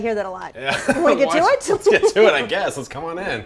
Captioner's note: laughs